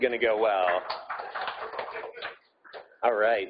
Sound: audience applauding

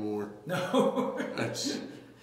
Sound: laughs

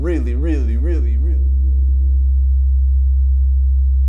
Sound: humming noise

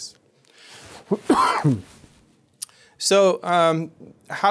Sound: coughing

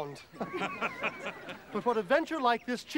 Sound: laughter

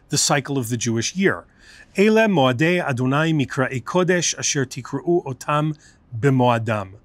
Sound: Hebrew

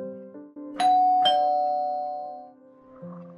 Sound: calling Bell Rings

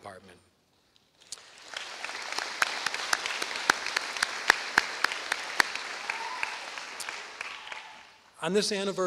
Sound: applause

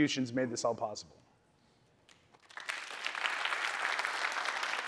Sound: applause

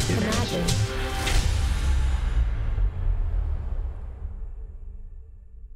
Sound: air whooshing

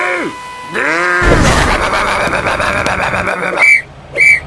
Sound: grumbling

